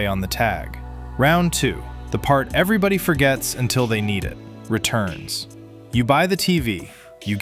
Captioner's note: thoughtful